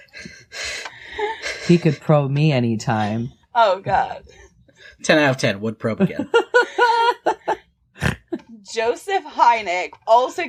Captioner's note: laughter; laughter